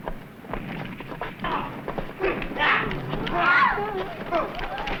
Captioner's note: groaning